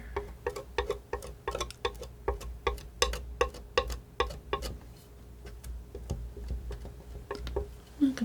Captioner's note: tapping